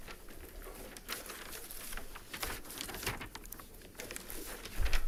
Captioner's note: papers shuffling